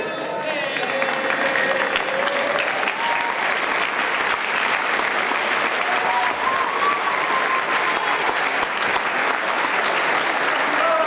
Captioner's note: applause